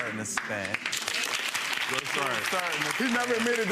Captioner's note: audience applauds